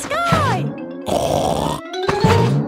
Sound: snorts

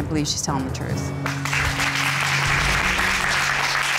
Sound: applause

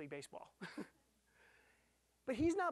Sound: chuckling

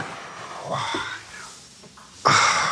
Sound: breathing out heavily

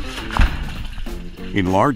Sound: water splashes

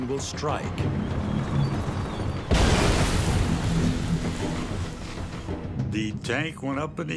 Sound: tank rumbling; landmine exploding

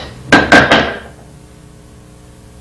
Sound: rock hits the floor

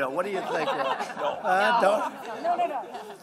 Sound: laughter

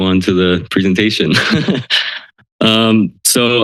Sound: laughter

